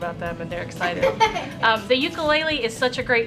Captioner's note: children laughing